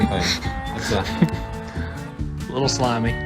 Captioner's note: Peanut crunches